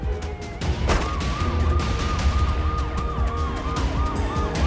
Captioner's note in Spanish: Disparos